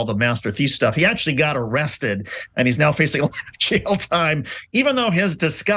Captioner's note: laugh